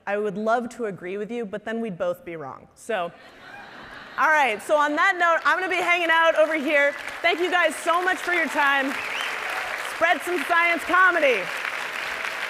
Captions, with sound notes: I would love to agree with you, but then we'd both be wrong. So, all right. (audience laughing) So on that note, I'm gonna be hanging out over here. Thank you guys so much for your time. Spread some science comedy!